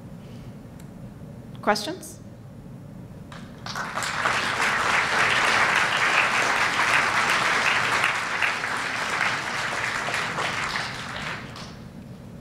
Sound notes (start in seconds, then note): 3.3 applause